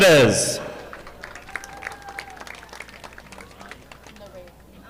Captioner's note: audience applauding